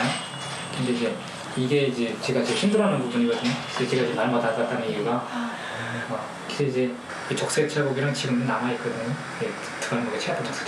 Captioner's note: speaking in foreign language